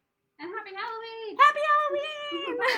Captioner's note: laughter